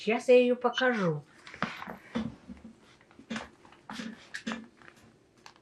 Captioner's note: pauses 13 seconds